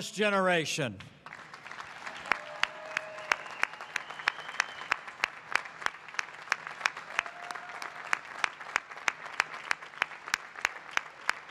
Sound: applause

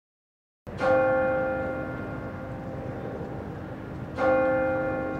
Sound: bell chiming

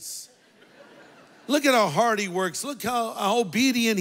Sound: congregation laughs

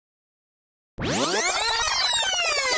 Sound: rewind sound

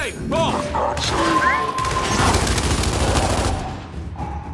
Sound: gunfire

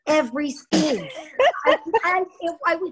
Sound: laughs

